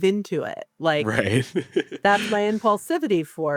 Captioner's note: laughs